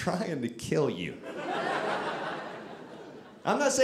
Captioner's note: audience laughing